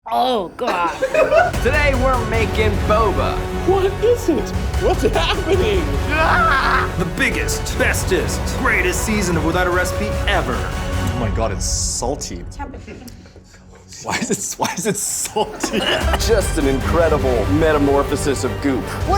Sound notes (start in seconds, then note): 15.8 laughs